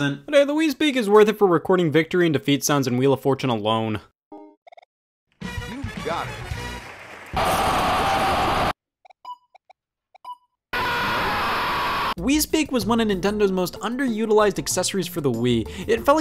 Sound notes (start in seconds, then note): 7.3 glorious victory noises; 10.7 scream of defeat